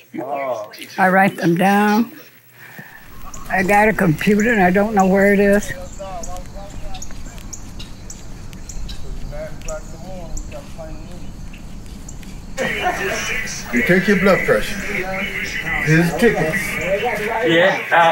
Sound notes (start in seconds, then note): 7.2 birds chirping; 9.3 people chatting; 13.3 radio voices